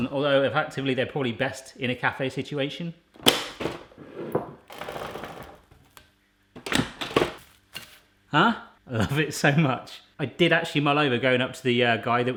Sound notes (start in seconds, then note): 3.4 machine clicking; 3.5 machine rolling; 6.1 machine clicking